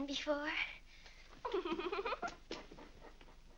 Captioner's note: Mary giggles